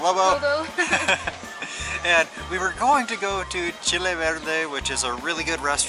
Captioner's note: laughter